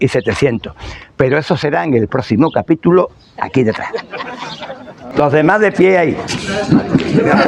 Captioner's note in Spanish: risas